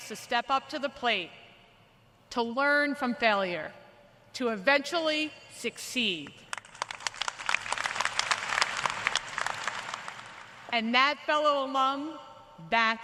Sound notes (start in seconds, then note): 4.5 applause